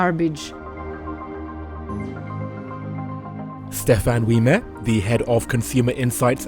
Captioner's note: voiceover